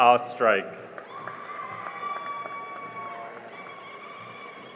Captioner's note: cheering and applause